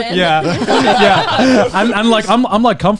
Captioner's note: laughing